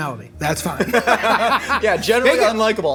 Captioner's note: laughing